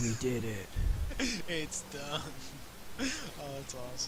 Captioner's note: chuckling